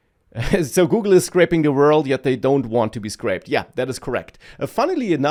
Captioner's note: laughs